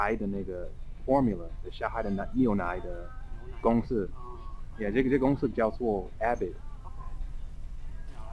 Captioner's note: mandarin